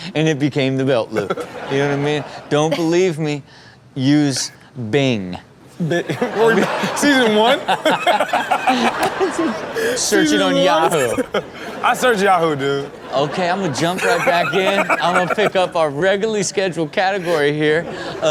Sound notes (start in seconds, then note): 5.9 audience laughs; 6.0 everyone laughs